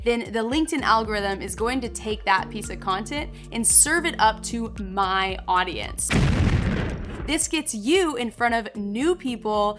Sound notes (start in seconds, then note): 6.0 boom